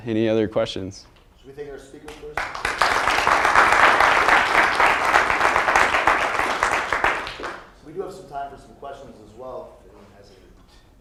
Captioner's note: applause